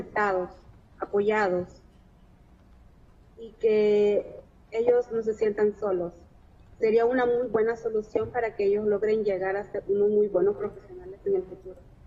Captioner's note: speaking spanish